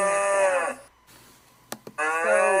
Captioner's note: mooing